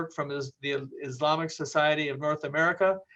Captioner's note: none